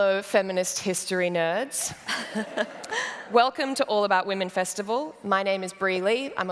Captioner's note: laughter